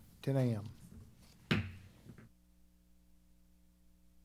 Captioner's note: gavel clacks